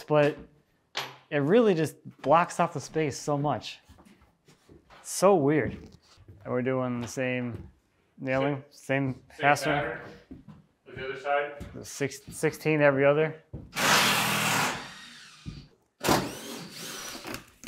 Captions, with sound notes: but it really just blocks off the space so much. It's so weird. And we're doing the same nailing? - Same. - Same pattern. As the other side. - The 16 every other. (drill whirring)